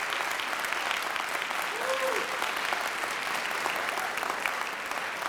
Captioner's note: applaud